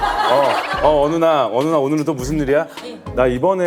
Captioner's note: hahaha